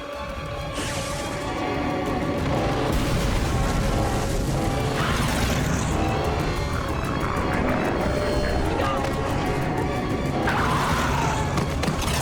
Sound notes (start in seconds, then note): 0.9 booms; 4.9 screams; 10.7 yells